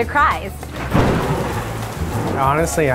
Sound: thunder and rain sound

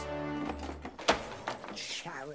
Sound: thud

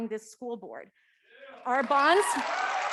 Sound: audience clapping

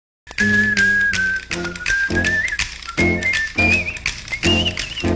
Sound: whistling

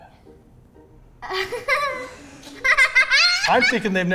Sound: laughs

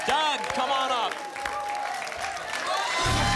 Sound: applause and cheering cont

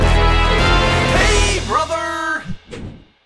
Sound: voiceover; logo whooshing

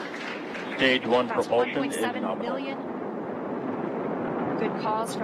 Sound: cheering and applauding

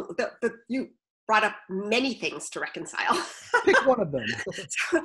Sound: laughs

